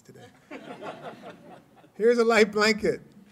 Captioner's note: laughter